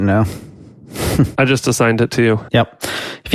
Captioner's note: sighs